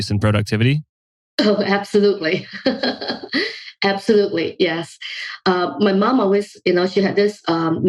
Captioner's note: laughs